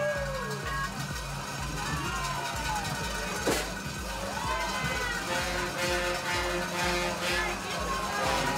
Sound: cheering; band Music

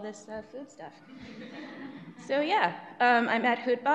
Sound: audience laughs

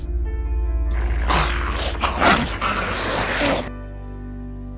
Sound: growling

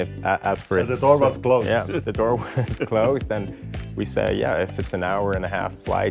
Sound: laughs

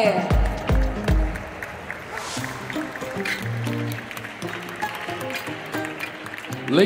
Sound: applause; ♫ Midtempo guitar music ♫

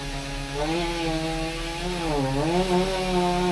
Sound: motor whirring

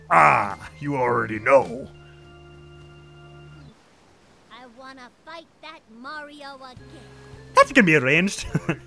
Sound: as Mario

